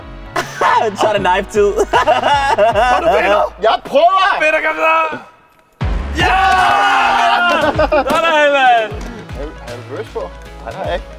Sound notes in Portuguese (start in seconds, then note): 1.6 Risada; 6.1 Gritos animados